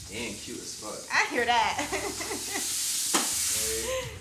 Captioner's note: chuckles